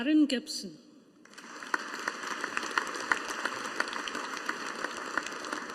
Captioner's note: audience applauding